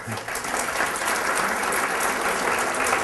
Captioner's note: applause